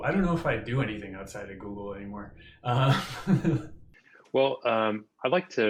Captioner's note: laughs